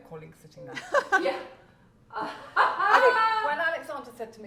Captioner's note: laughs